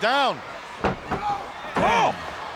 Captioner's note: body slamming